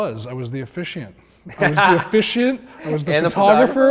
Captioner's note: laughs